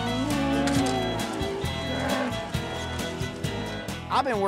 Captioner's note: mooing